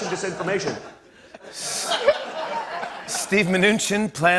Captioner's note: laughter